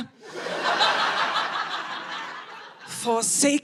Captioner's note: audience laughing